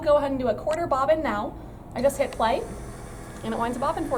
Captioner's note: whirring noise